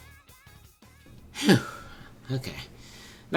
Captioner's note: phew